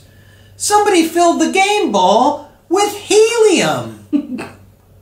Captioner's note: giggle